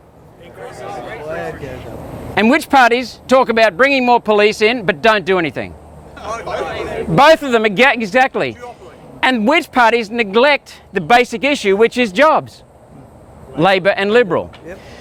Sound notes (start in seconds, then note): 0.3 crowd; 6.1 crowd